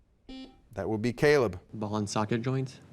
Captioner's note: buzzer beeps